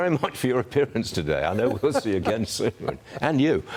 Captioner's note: laughter